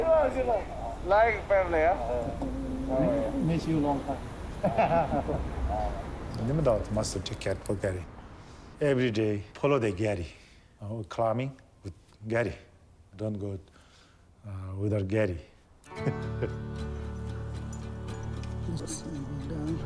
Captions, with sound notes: - I know, too long, too long. Like family, huh? Miss you long time. (laugh) Kipa-Nima Dawa mostly took care of Gary. Everyday, follow Gary. ...climbing with Gary. Don't go without Gary. (laughs) (slow guitar music)